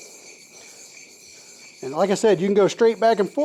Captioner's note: scraping